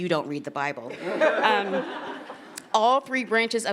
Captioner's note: attendees laughing